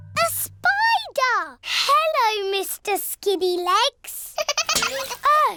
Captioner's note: giggling